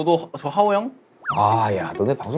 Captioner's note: impressed